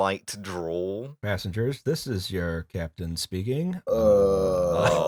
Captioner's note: pilot voice